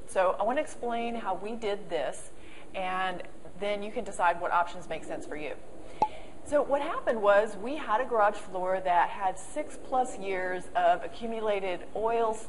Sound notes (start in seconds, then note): 6.0 pop